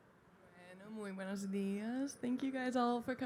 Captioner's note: speaking in a foreign language